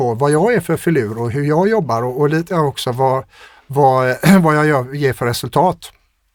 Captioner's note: clears throat